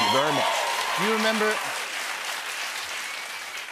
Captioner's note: cheers and applause